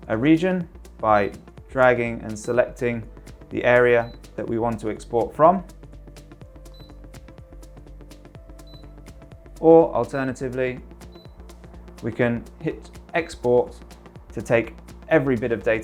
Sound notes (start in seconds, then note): 1.1 screen beeps; 4.0 screen beeps; 6.6 screen beeps; 11.1 screen beeps